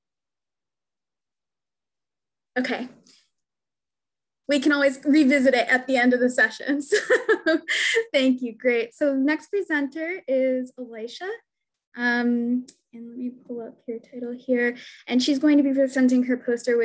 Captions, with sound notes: Okay. We can always revisit it at the end of the session. (laughs) Thank you, great. So next presenter is Elisha. And let me pull up your title here. And she's going to be presenting her poster,